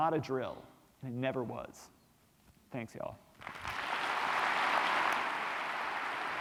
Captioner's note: applause